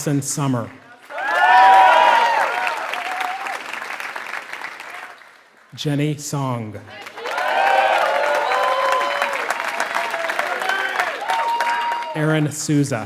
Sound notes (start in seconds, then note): 3.6 applause